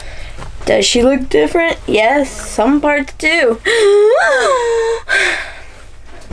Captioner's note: gasp